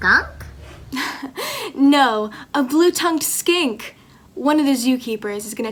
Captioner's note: chuckles